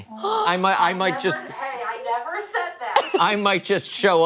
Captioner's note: laughter